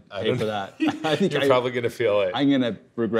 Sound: laughs

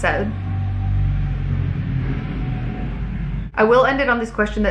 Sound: car revving

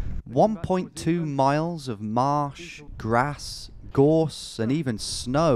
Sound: voiceover

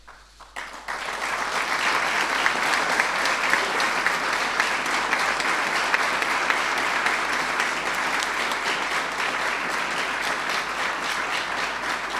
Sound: applause

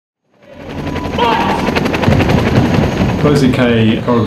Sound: helicopter sounds

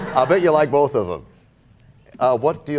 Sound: laughter

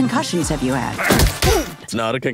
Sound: grunting

